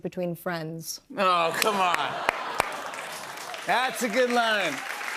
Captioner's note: audience "Awws"